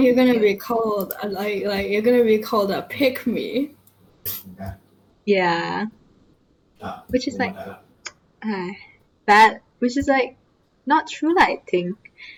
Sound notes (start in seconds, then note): 8.3 sigh